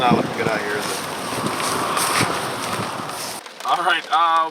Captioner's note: rain pattering